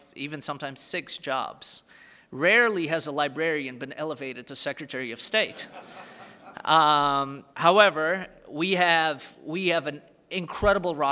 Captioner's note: laughter